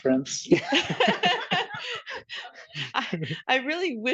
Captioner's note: audience laughing